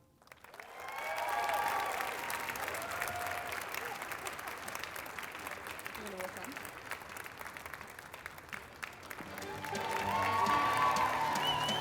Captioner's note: applause